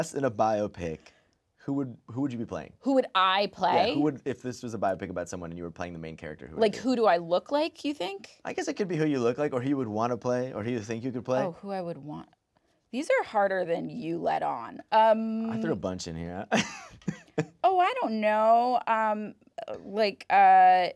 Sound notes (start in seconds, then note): 16.2 chuckles